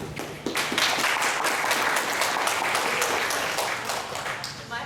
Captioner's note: applause